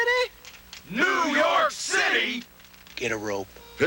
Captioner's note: cowboys in unison